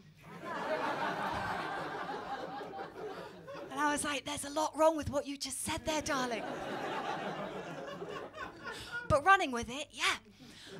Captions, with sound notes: [LAUGHTER] And I was like, [WHISPERS] ‘There’s a lot wrong with what you just said there, darling.' [LAUGHTER] But running with it, yeah.